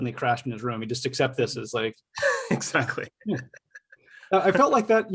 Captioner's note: chuckles